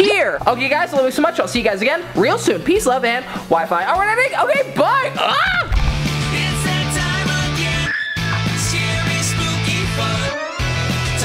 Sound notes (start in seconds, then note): 5.5 upbeat music; 7.8 screams